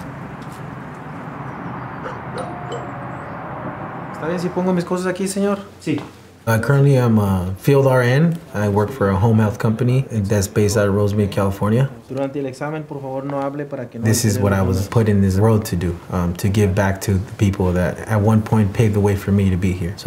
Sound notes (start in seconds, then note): 1.5 doorbell rings; 4.5 spanish conversation; 12.4 spanish conversation